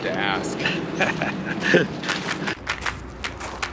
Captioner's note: both laugh